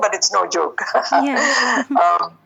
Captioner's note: giggling